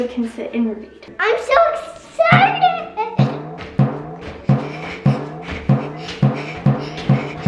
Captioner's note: bouncing ball sound